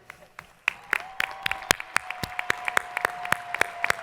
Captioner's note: crowd applauding